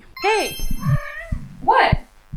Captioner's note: meow